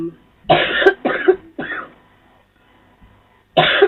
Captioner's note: coughs